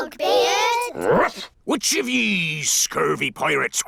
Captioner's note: barks